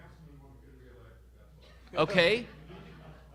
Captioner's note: audience laughing